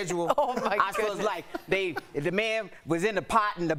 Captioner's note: laughter